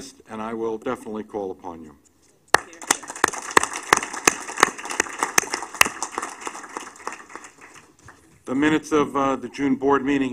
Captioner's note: applause